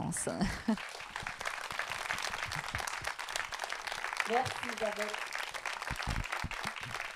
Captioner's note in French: Le public applaudit